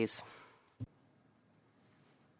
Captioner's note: speaking French